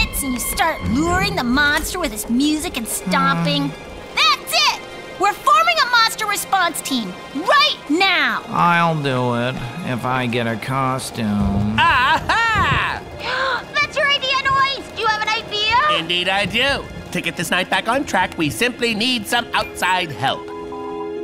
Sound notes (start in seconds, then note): 13.1 Xenon gasps